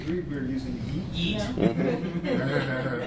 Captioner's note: laughs